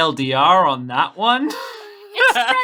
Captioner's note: laughs